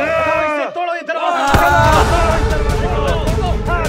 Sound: screams

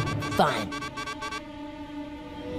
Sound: beeping

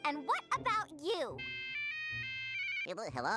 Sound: cell phone ringing

